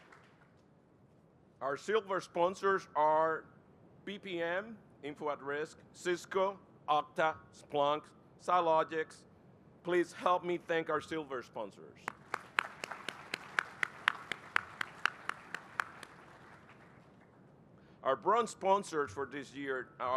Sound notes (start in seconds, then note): 12.0 applause